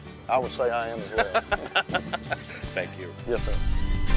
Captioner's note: laughing